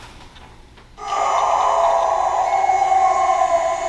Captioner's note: animal howling